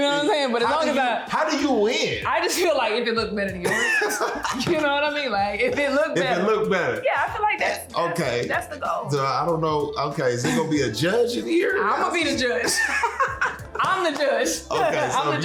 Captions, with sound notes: But as long as I-- - How do you-how do you win? - I just feel like-- if it looks better than yours. - [laughs] - You know what I mean? Like, if it look better. - If it look better. - Yeah, I feel like that's-- that's the goal. - I don't know-- okay, is there gonna be a judge in here? - I'ma be the judge. [laughter] I'm the judge. I'm the judge.